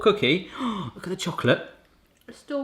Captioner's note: gasping